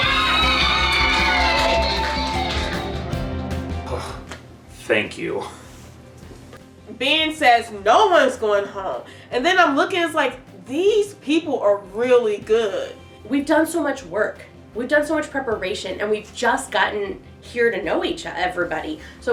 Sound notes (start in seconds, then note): 0.0 uproarious applause; 3.8 sigh of relief